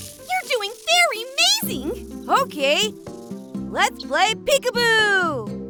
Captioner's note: none